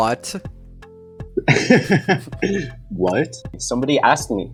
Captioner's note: laughs